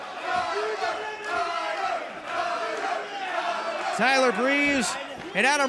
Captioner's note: fans chanting